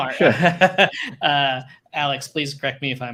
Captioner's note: laughing